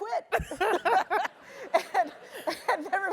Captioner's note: laugh